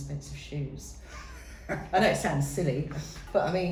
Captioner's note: laughs